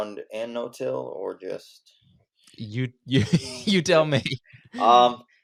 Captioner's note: laughs